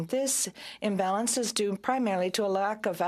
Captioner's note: speaking French